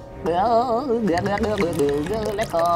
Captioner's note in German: Wabernde Laute